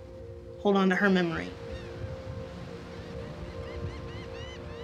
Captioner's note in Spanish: Aves graznando